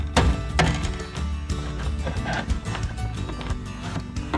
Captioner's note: tools banging